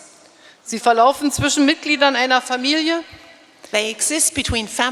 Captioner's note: speaking in German